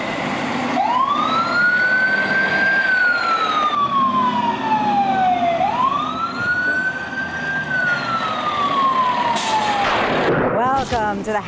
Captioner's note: sound of siren from fire truck